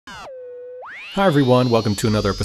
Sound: high pitch synth whine fades

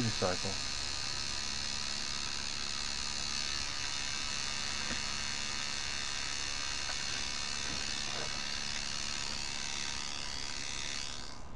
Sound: buzzing sound

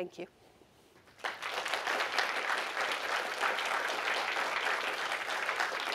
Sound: applause

